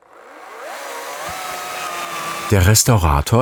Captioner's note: whirring sound